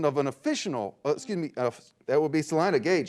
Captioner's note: beep